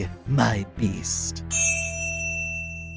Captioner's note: crystal rings